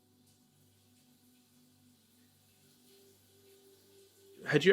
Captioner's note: water running